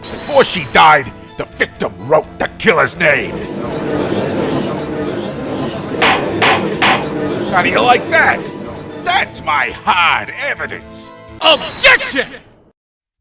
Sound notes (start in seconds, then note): 5.3 gallery chattering